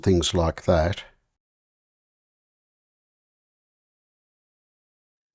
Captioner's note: silence